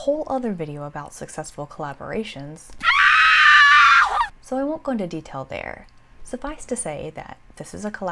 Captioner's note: scream